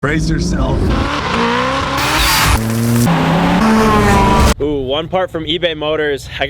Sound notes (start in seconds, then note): 0.0 engines roaring